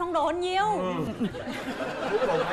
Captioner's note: laughing